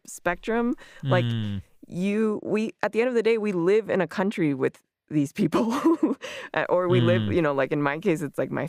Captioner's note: laughs